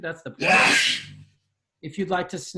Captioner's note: sneezes